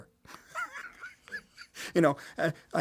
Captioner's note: Martin laughs